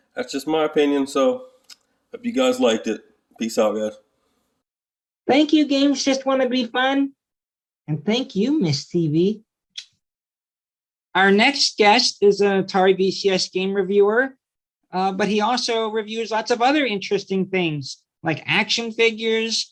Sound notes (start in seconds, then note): 9.8 kiss